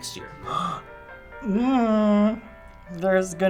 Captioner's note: gasping